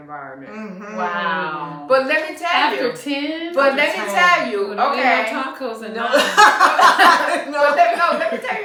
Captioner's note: laughter